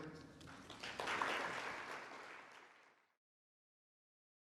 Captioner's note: audience applauding